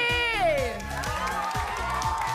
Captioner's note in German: Jubel